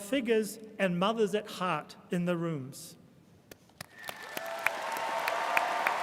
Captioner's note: applauds; audience applauding and cheering